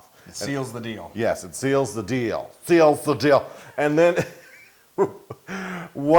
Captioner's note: laugh